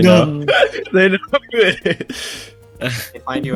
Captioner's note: laughing